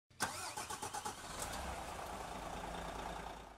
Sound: car engine starts

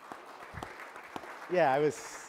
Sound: applause

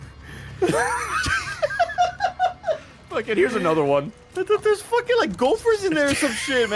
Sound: laughs

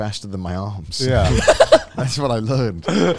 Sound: laughing

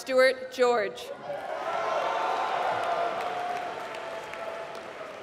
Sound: applause

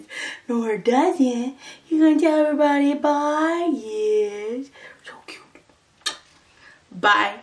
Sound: kiss

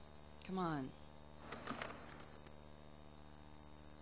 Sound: keyboard typing

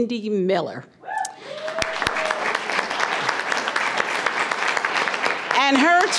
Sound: audience cheering and applause

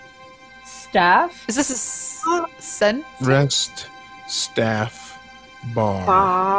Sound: in unison: Rest, staff, bar, flag

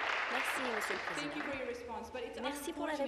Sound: applause

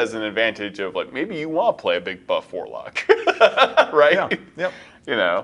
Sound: laughs

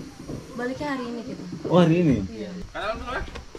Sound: discussing in Bahasa

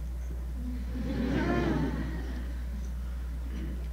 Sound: laughter

